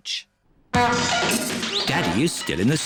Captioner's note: crashing